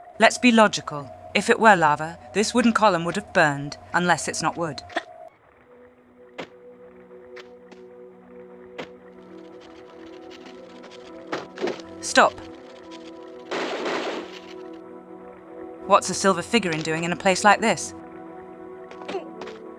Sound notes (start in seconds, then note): 8.4 sounds of spider; 13.4 bam bam